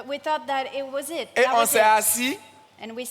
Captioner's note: continues in French